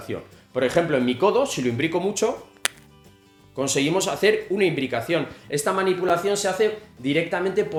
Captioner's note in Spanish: crack